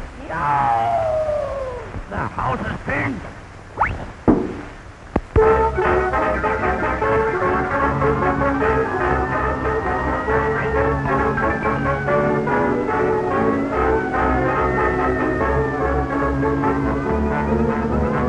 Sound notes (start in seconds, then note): 0.2 ghoul howling; 5.5 dramatic music; 8.6 siren wailing